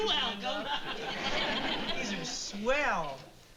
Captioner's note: laughs